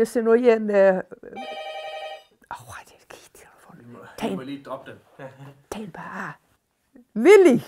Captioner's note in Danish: Telefon ringer